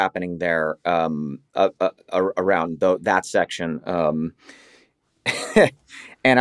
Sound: laughs

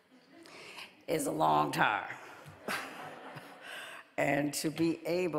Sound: audience laughing

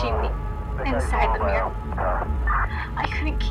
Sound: police walkie talkie

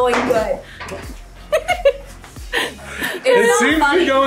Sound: parents laughing

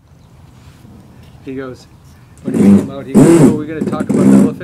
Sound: loud drilling

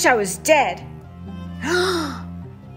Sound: gasp!

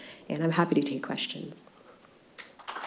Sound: applause

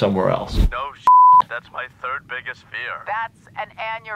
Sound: beep

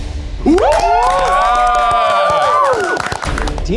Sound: audience cheers

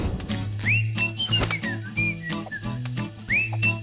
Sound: whooshing; whistling

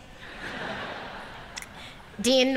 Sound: laughter

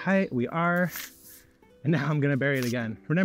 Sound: shovel scrapes

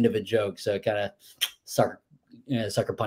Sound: clicks tongue

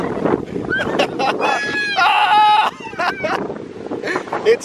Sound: squeals; screams and laughs

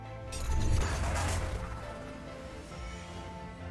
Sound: bright instrumental music continues; metal clanking

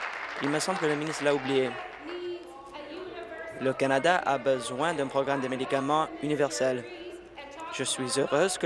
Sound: applause

